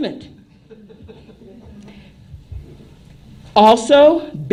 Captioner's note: laughter